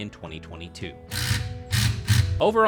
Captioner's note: construction drill grinds